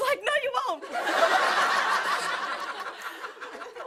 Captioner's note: laughter